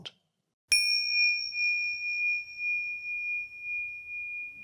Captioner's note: bell chiming